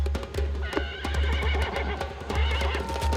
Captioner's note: neighing